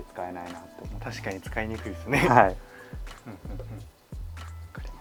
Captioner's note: laughs